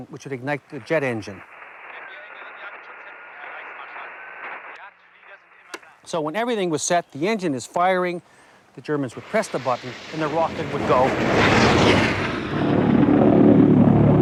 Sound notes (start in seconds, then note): 2.7 radio tuning; 11.3 rocket roaring